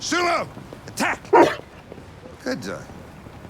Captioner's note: woof